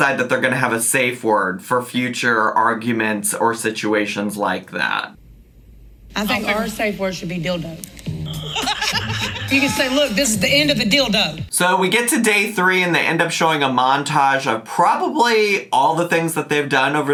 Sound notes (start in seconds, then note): 8.1 laughs